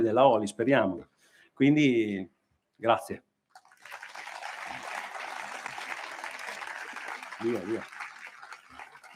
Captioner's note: applause